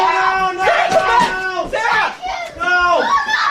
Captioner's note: screaming